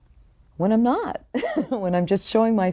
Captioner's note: laughing